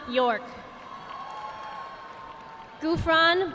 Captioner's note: audience applauding